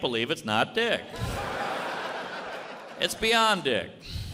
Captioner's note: audience laughs